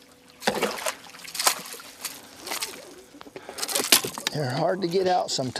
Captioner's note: splashing